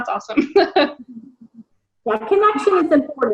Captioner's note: laughs